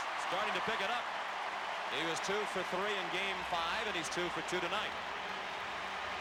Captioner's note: applause